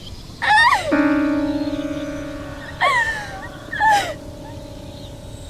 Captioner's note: Ira cries